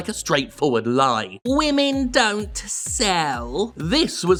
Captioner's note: mocking